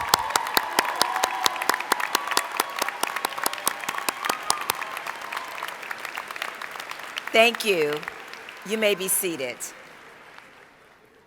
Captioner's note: applause